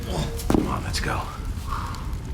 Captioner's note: groans